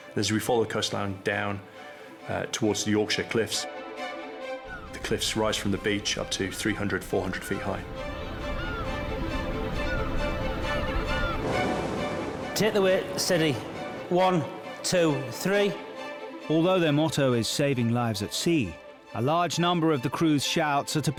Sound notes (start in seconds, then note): 4.1 upbeat music; 8.5 upbeat music; 10.1 birds chirping